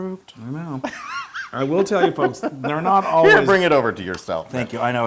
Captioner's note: laugh